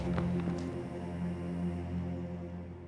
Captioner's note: running footsteps